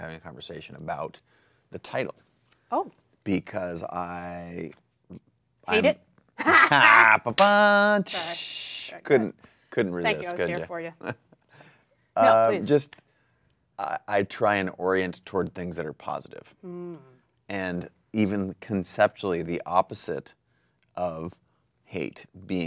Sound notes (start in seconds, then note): 6.4 laughing; 7.8 rimshot drumming